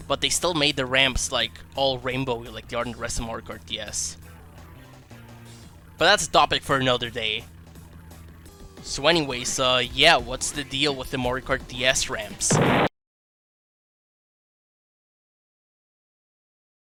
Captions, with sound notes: but they still made the ramps like all rainbow-y like they are in the rest of Mario Kart DS but that's a topic for another day so anyways uh, yeah what's the deal with the Mario Kart DS ramps? [explosion stock sound effect]